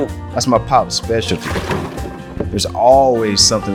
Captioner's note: loud splashing